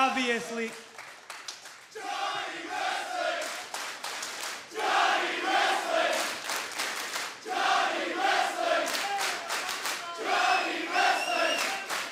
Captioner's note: crowd cheering